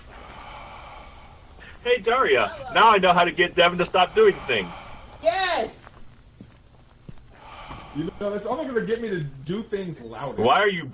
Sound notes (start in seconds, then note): 0.1 exhales on mic; 3.2 exhales